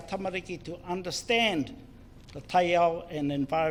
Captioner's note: foreign Language; foreign Language